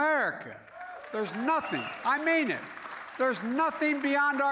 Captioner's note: applause